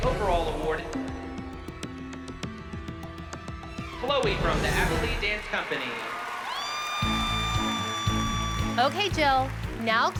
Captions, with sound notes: overall award. Chloe from the Abby Lee Dance Company. [cheers and applause] OK, Jill.